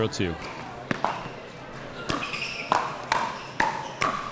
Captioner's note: ball clacking